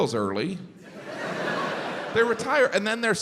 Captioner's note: crowd laughs